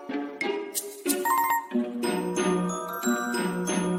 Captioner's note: twinkling sound